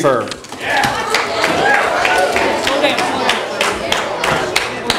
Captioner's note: audience applause